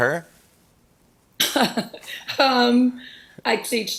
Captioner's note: chuckles